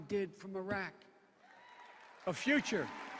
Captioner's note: cheers and applause